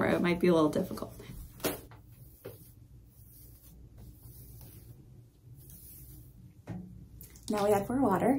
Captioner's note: soft brushing sounds